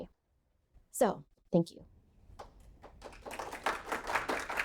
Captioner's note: audience applauding